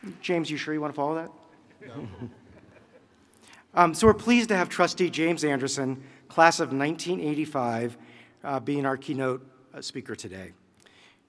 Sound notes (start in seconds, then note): 1.6 laughing